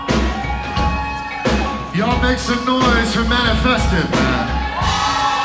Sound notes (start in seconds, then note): 4.8 crowd cheers